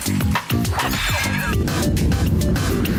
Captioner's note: squeaking